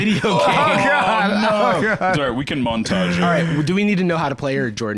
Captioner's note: fake sobbing